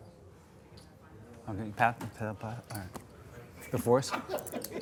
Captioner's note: murmuring